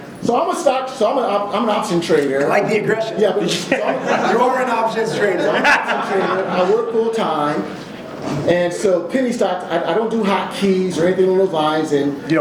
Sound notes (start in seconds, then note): 3.4 laughs; 6.1 audience laughs